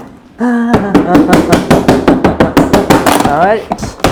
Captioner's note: puncturing box